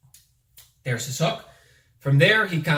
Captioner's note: fingers snap